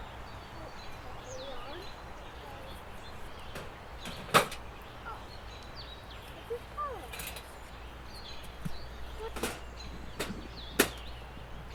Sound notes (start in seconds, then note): 6.5 faintly speaking